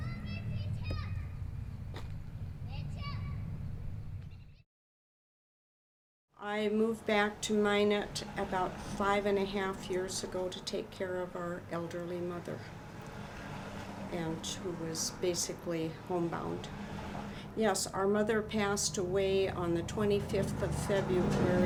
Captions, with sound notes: (child yelling) - I moved back to Minot about five and a half years ago to take care of our elderly mother, and who was basically homebound. Yes, our mother passed away on the 25th of February